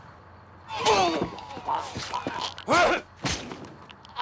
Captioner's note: groans